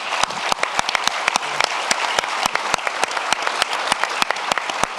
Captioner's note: audience applauding